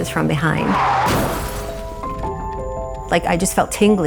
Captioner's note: car crashing; soft music continues